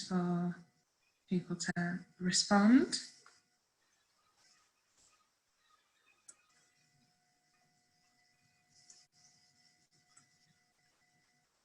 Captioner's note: silence